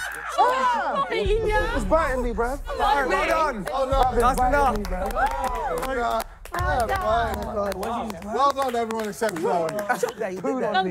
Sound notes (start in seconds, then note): 0.0 laughing; 5.6 contestants cheering